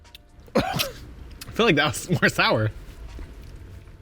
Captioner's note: lips smacking; coughs